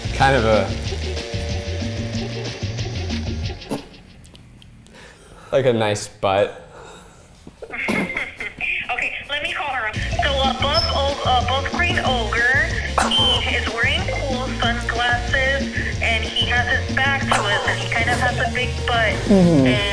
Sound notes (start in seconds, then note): 0.1 playful music; 8.1 chuckles